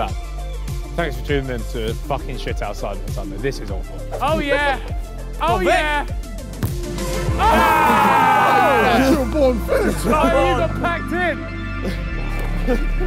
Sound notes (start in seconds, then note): 7.1 group In Unison; 9.5 players clamouring